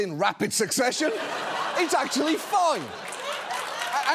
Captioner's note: studio audience laughing; studio audience laughing, applauding